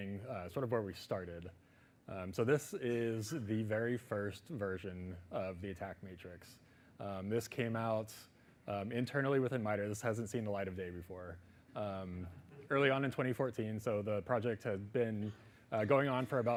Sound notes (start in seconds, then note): 12.0 audience laughing